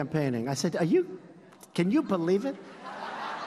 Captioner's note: laughter